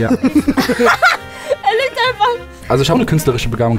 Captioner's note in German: Gelächter